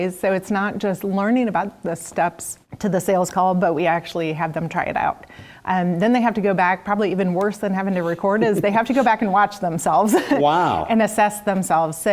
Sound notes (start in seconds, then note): 8.0 laugh